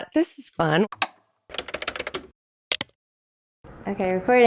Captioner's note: clicking camera sounds